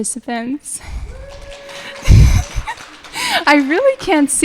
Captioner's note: audience clapping